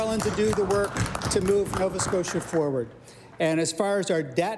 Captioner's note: applause